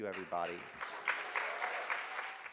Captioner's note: audience applauds